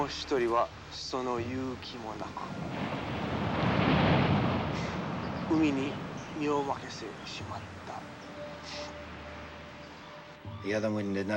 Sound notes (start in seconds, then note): 0.1 speaking foreign language; 3.3 waves crashing